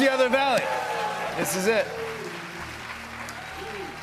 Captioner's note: cheers and applause